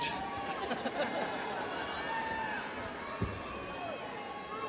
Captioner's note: audience cheering